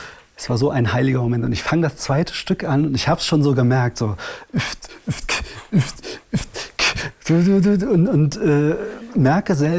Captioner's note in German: imitiert Beatbox